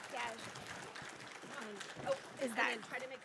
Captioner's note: applause